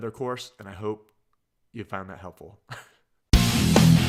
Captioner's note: chuckles; heavy metal music